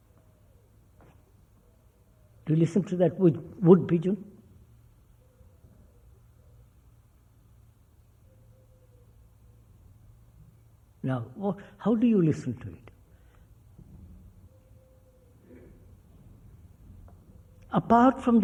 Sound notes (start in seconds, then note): 4.9 sound of woodpigeon